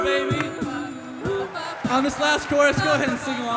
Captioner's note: crowd cheering; singers continue vocalizing